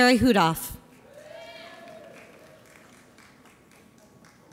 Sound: audience applauds

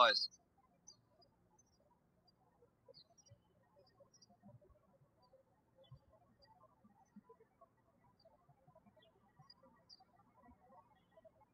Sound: birds chirping

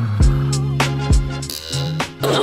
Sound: creak

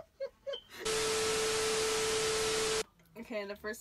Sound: both laugh; TV static

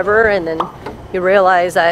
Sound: pop

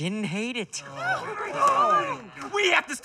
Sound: all cheering

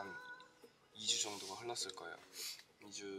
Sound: sniff

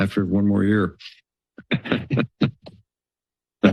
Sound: laughter

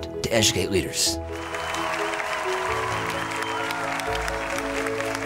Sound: applause

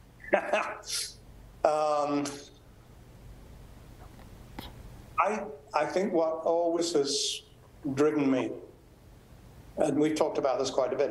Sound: laughs

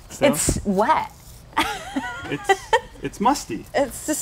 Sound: laughs

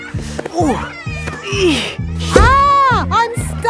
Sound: grunting

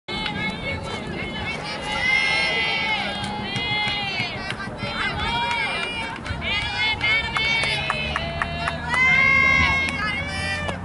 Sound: players yelling

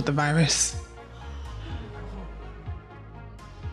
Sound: gasping

